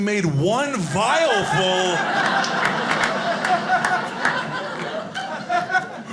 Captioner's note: audience laughing